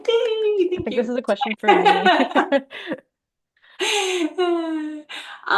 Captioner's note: laughs